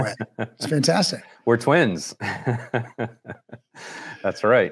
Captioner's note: laughs